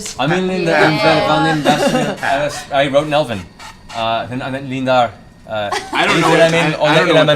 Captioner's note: speaking in Elven